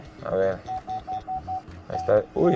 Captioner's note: sensor beeping